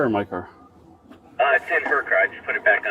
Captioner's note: radio chatter